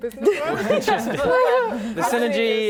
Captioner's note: laughing